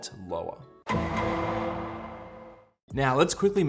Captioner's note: dramatic sound